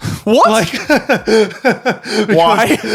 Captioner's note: laughing